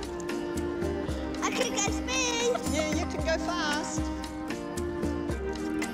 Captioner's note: laughs